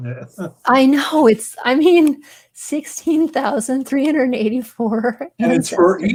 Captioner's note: chuckles